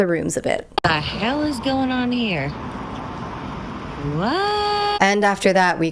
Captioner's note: hoots